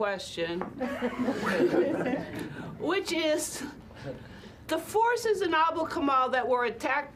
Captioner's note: laughing